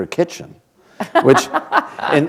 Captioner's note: laughter